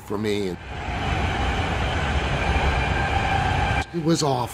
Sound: train screeching in tunnel

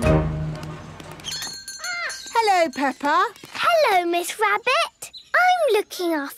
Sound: bell jingling

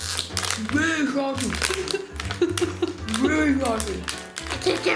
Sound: mom laughing

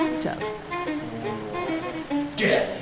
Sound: mumbling

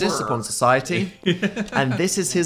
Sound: laughing

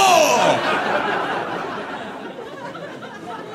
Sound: audience laughing

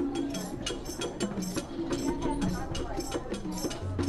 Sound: chattering

